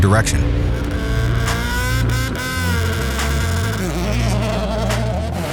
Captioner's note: engine revving